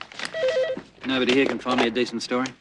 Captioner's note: phone rings